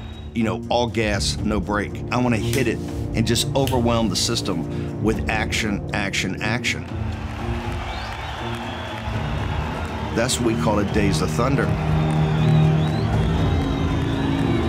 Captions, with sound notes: You know, all gas, no brake. "I want to hit it and just overwhelm the system with action, action, action." (crowd cheering) That's why we called it "Days of Thunder."